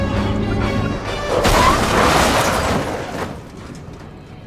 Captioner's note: cars clanking